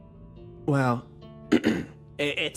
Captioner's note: clears Throat